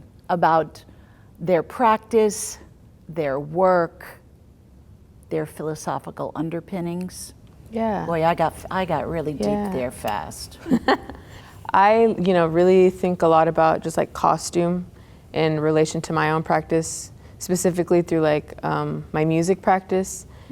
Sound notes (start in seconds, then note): 10.6 laughter